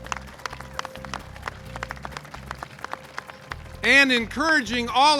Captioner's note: claps